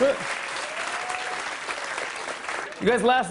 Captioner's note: applause